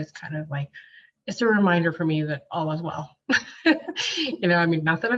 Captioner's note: chuckles